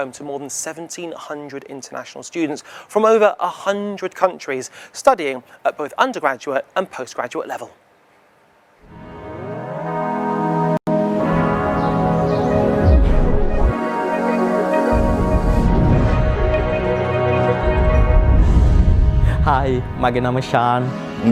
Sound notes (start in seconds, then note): 9.1 gentle music; 11.4 birds chirping; 19.7 speaking in foreign language